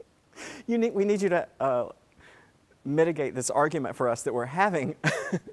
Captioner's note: laugh